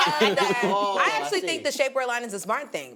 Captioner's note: laughs